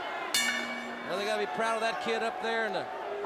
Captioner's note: bell ringing